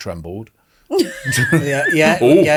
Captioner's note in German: lacht